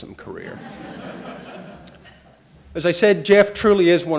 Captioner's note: audience laughing